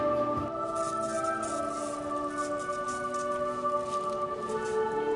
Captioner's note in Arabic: none